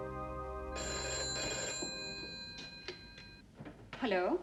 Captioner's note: phone ringing